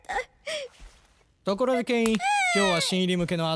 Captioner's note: whimpers